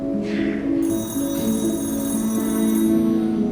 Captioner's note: phone rings